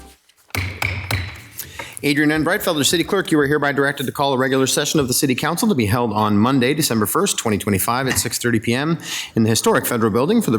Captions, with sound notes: (gavel bangs) - Adrienne Breitfelder, the city clerk, you are hereby directed to call a regular session of the city council to be held on Monday, December 1st, 2025 at 6:30 PM in the historic federal building